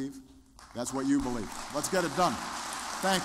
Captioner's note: applause